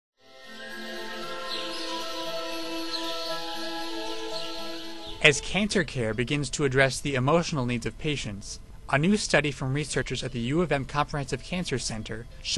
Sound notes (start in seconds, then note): 0.2 serene music; 0.6 birds chirping